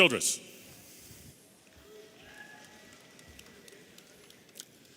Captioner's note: audience cheering